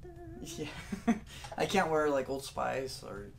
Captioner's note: laughter